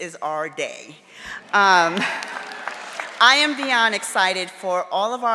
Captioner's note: audience applauding